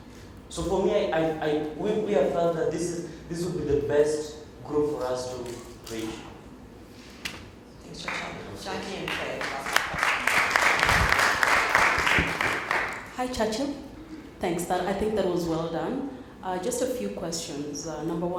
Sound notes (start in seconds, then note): 11.7 applause